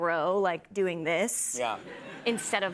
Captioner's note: laughter